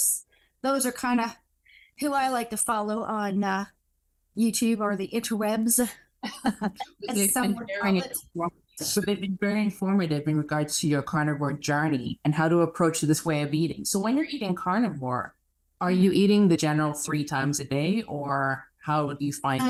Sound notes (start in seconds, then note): 6.2 chuckles